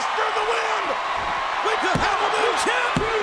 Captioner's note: audience cheering